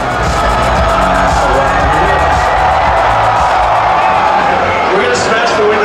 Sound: upbeat music; crowd cheering

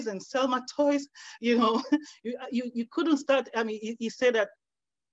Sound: laughs

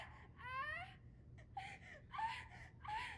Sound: woman whimpers in pain

